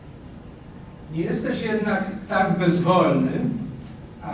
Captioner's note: speaking Polish